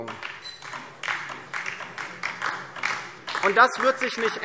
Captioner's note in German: Beifall DIE LINKE